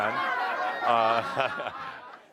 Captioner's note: laughter